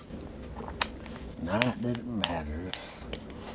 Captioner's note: none